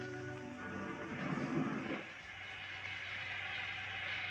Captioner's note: steam hissing